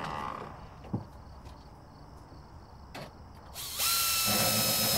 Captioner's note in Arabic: طنين الحفر